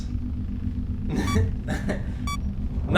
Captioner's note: laughs